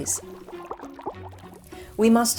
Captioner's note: water bubbling